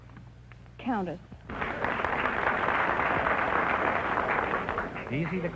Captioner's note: applause